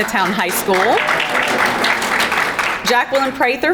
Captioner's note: crowd clapping; background chattering